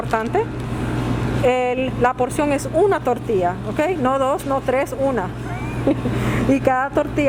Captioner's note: laughs